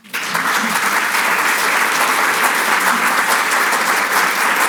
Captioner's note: audience applauds